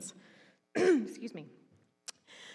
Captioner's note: clearing throat